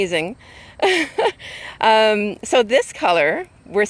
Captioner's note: laughing